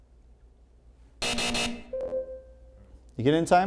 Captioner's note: hard buzzing; ringing